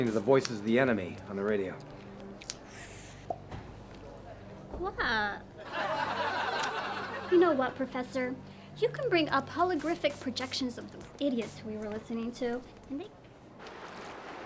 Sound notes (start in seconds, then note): 2.4 gum pop; 5.7 laughing